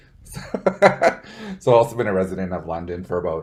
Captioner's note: laughs